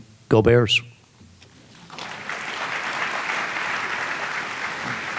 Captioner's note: audience applauding